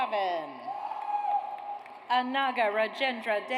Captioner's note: audience cheers